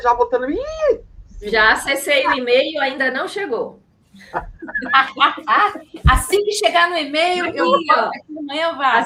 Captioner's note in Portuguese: risadas